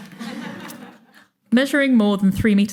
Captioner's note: audience chuckling